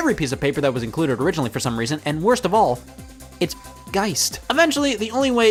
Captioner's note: beep